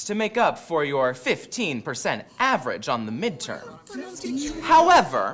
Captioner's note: students grumble